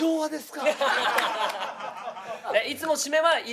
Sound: laughter

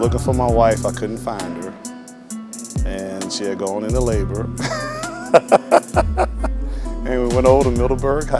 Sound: laughs

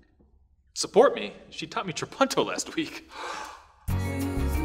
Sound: gasp!

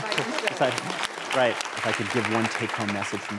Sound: applause

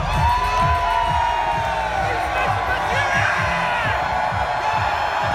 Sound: cheering

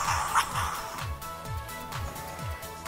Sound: laser Sounds

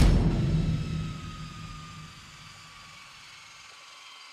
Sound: airplane landing

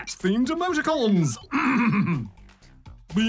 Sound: clears throat

